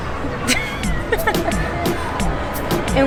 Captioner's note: laughs